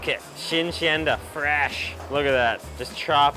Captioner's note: speaks in a foreign language